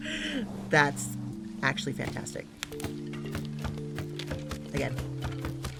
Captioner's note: laughs